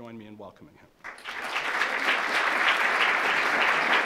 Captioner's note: applause